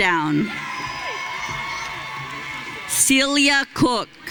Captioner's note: audience cheering